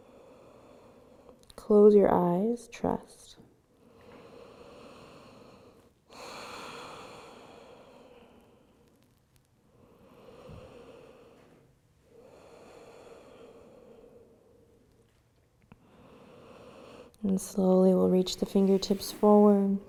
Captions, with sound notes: Close your eyes, trust. (breathes deeply) And slowly, we'll reach the fingertips forward.